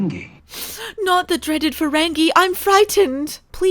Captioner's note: snifs